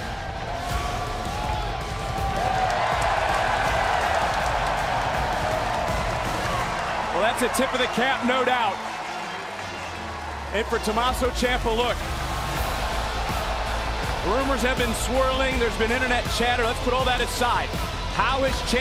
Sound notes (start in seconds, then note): 1.0 crowd cheers